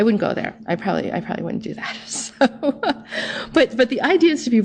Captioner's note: laughing